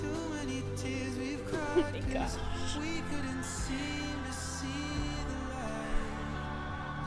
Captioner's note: crying